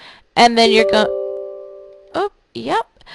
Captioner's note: computer chiming